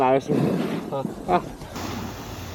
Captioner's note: sound of riding